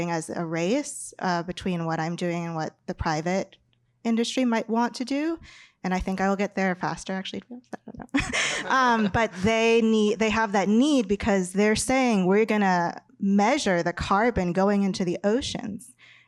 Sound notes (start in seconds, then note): 8.2 laughs